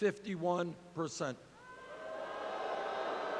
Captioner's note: crowd boos